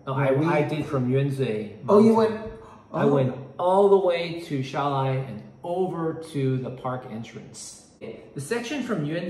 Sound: Mandarin

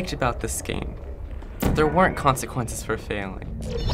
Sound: warbling; gun zaps

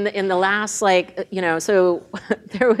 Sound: laughs

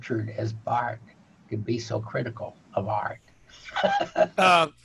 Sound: chuckling

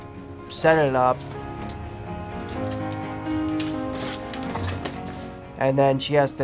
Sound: clanging of shower curtain

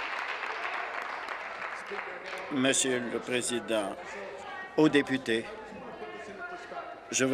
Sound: applause

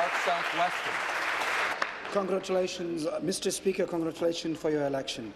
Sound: applause

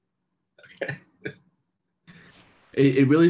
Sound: laughter

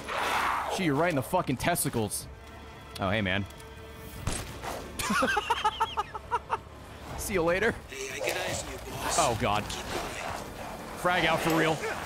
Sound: laughs

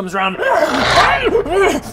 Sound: agh! urgh! grrr; hrrgh!

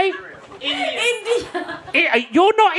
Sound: laughing

